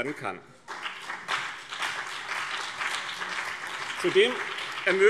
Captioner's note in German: Beifall BÜNDNIS 90/DIE GRÜNEN und CDU